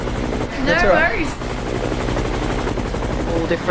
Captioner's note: helicopter